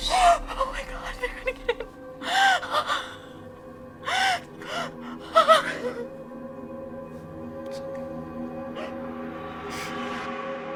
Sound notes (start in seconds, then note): 2.4 woman crying; 7.3 gentle music